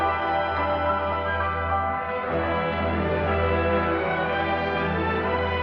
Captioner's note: bell